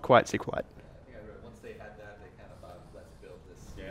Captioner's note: voiceover